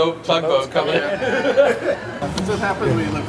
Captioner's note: laughs